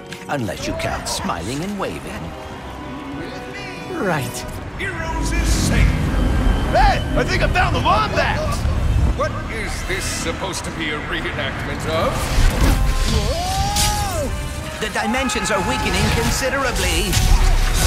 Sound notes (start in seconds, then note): 11.9 swoosh